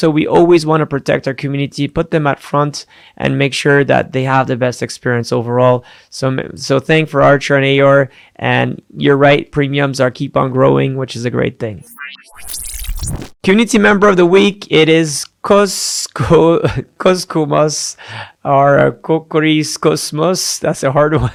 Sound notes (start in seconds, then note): 11.8 machine whirring